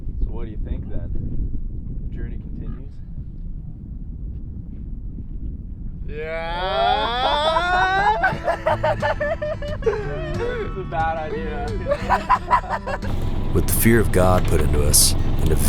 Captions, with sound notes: So what do you think, then? Journey continues? (yelling) (laughing) This is a bad idea. (laughing) With the fear of God put into us